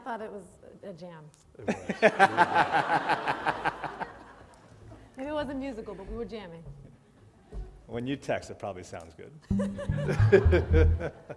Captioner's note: laughter